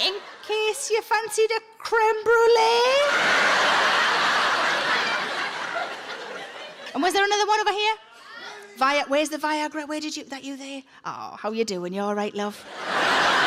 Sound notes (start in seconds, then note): 3.1 audience guffaws; 8.4 people shouting